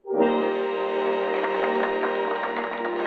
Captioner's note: applauding; grand orchestral music